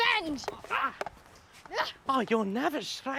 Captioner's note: both grunting